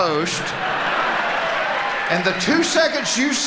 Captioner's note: audience laughing